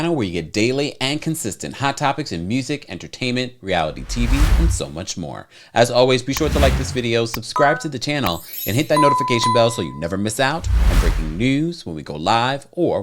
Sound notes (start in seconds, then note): 3.8 slide whooshes; 6.4 cursor clicking; 8.3 bell chimes